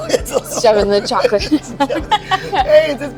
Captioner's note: laughing